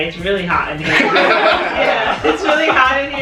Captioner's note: laughter